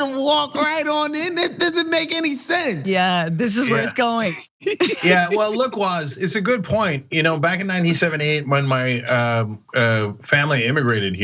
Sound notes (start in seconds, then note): 3.4 laugh